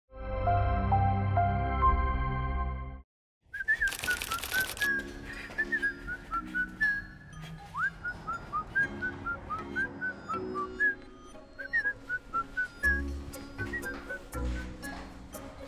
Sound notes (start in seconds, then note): 0.4 upbeat music; 3.5 whistling; 3.9 whimsical music